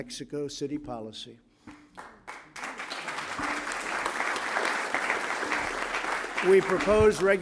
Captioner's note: applause